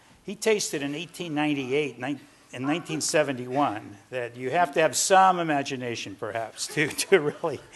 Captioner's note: laughs